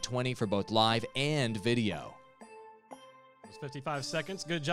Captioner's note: melodic timer